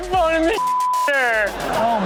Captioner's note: beep; audience laughs